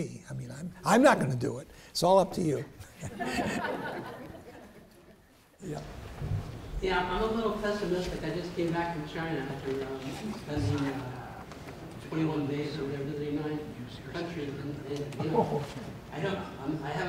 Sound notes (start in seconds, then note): 2.8 laughs